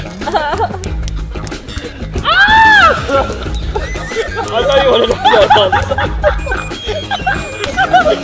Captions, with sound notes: (laughing) - I don't wanna look, I can't.